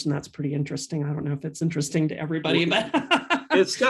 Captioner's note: laughs